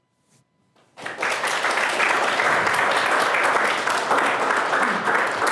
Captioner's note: applause